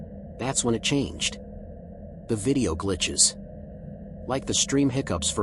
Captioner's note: lowers voice